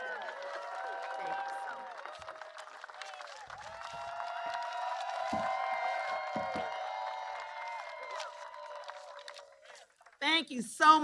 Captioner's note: applause